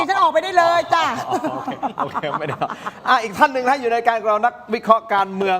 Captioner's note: laughs